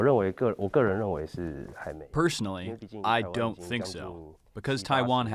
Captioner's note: through translator